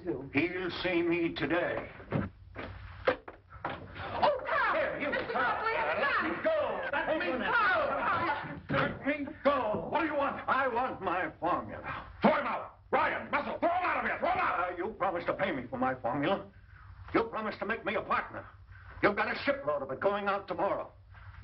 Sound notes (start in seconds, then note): 4.0 confused shouting